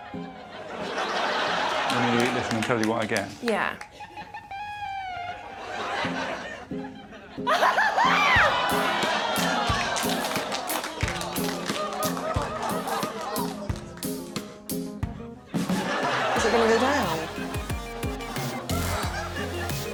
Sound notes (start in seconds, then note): 7.6 audience groaning; 8.5 Morgana laughs delightedly